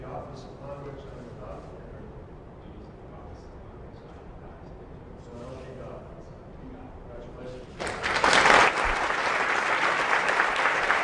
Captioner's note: applause